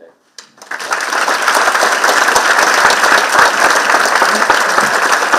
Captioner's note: participants clapping